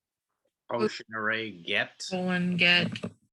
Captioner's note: bold Voice